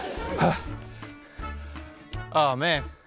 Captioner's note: gasps